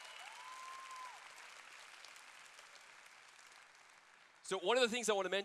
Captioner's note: applause